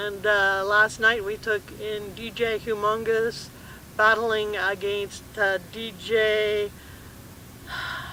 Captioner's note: sigh